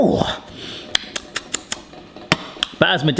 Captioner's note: tongue-clicks